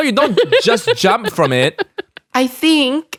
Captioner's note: laughs